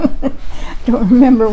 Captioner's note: laughs